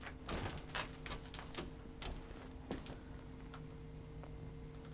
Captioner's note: crackling debris